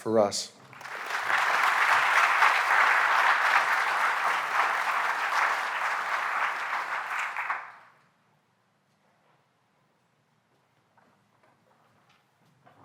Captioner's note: applause